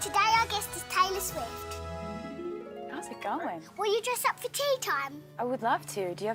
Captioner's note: none